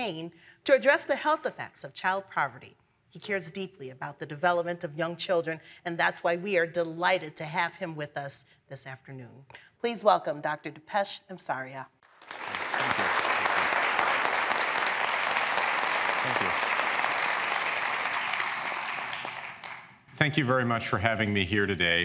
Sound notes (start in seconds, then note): 12.0 applause